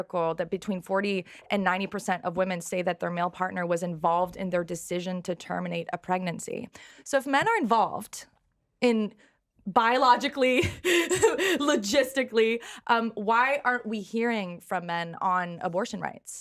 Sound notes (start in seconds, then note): 10.6 laughs